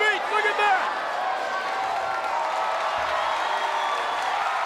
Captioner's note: crowd cheers